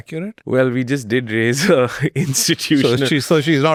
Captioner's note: chuckles